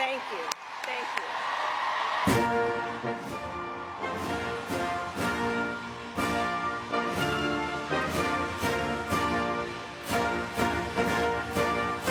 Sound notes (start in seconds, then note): 5.0 crowd cheering